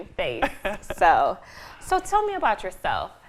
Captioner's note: laughing